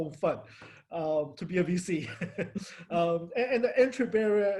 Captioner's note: laughs